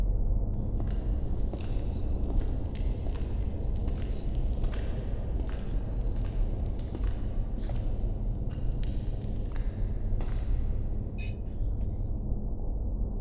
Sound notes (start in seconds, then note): none